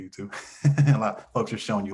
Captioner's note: laughs